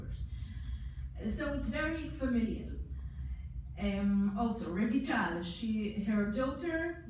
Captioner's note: foreign language